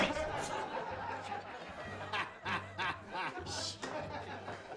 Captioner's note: laughter